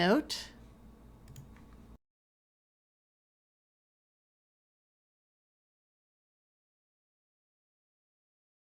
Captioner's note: silence while typing